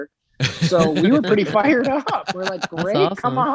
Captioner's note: all laughing